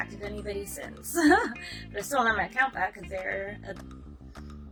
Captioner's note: giggles